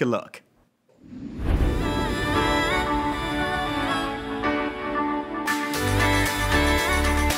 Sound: screen whooshes; uplifting music

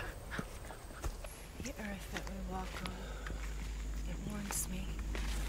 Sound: softly in prayer

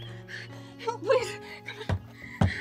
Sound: Margo knocking; panting

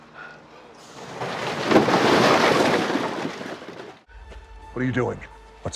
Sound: rocks rumbling

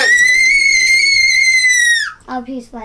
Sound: happily squeals

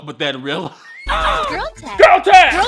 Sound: boy grunts

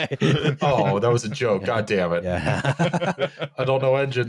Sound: laughs; laughs more

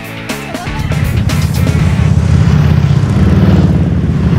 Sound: engines roaring

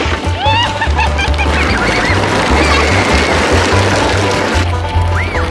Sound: laughing

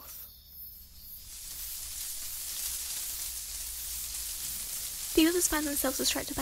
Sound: leaves rustling

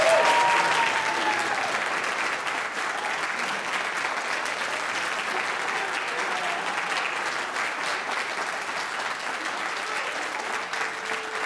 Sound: audience applauds

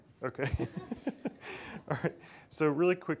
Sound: laughs

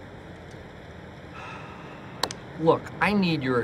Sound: sighs

